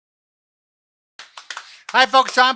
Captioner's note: clapping